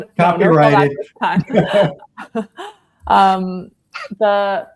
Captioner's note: panelists laughing